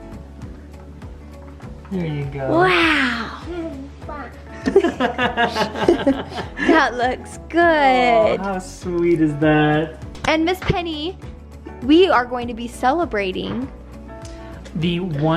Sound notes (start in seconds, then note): 4.6 laughing